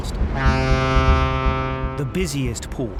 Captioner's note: ships horn blasts